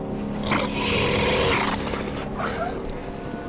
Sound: growl

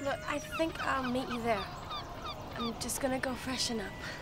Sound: none

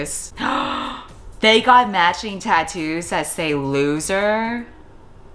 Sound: gasps

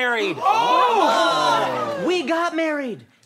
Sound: all cheering

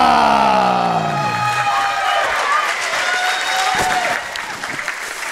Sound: audience cheering

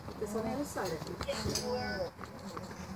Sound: groaning

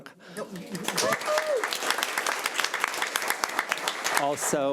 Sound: audience applauding

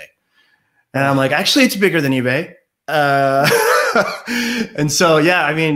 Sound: laughs

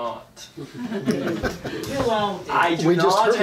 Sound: audience laughing

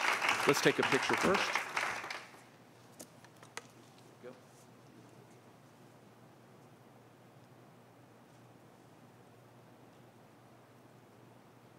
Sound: applause

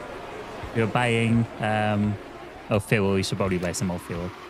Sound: laughs

